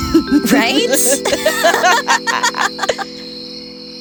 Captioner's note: Terrina and Bailynn laugh